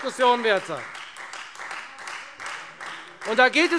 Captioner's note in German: Beifall Freie Demokraten